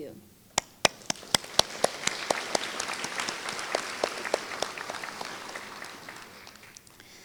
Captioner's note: applause